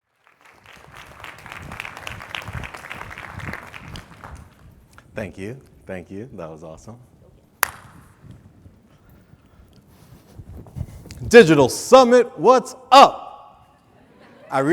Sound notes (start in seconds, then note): 0.0 audience clapping